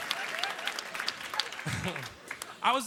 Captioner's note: laughter; applause